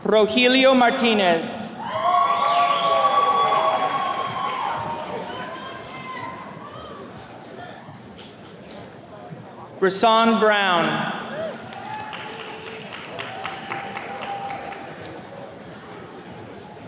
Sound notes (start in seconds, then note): 1.8 attendees cheering; 11.2 attendees cheers and claps